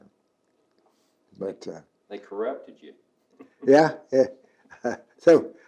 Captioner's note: laughs